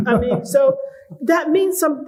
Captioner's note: laughter